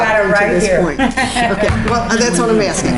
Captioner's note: laughs